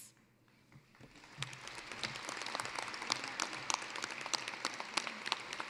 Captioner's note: applause